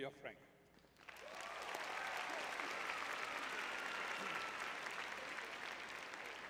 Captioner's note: crowd cheering